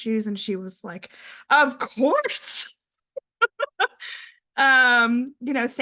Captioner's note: laughs